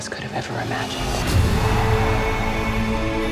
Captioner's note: crowd screaming